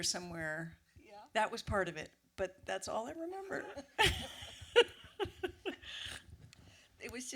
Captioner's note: laughs